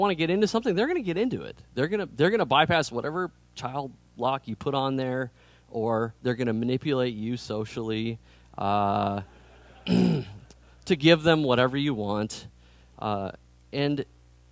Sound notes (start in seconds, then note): 9.3 laughter